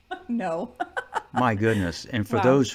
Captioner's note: laughing